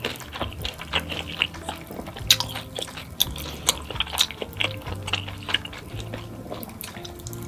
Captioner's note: laughs